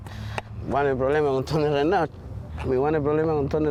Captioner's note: speaking spanish